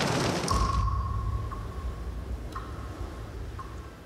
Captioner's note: blowing storm